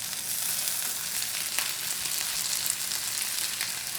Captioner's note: pan sizzling